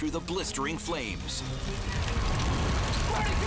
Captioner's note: fire roaring